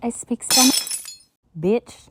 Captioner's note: glass shatters